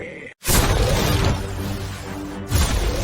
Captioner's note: cannon Fire